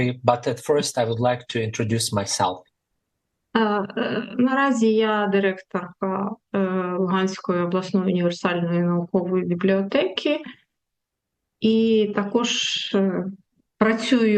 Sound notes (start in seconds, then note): 3.0 foreign language